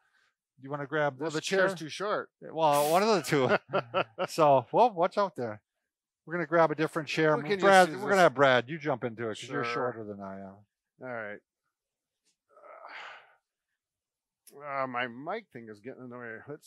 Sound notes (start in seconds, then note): 2.7 laughs; 12.6 grunts